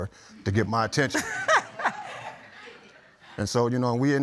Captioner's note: laughs